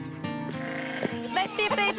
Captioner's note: bleats